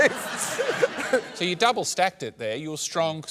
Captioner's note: laughter